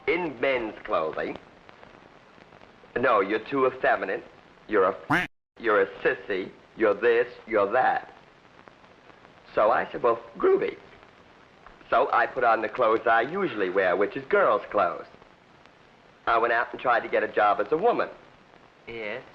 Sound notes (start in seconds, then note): 5.1 duck quack